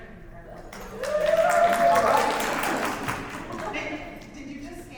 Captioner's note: audience cheers and applauds